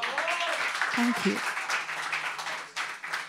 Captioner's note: audience claps and cheers